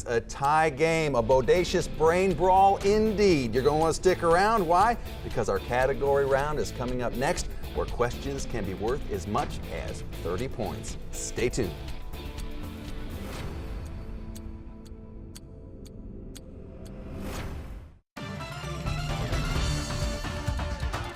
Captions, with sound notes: A tie game, a bodacious brain brawl, indeed. You're gonna wanna stick around. Why? Because our Category round is coming up next, where questions can be worth as much as 30 points. Stay tuned. (light music) (ticking) (upbeat music)